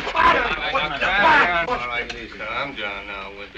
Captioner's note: chattering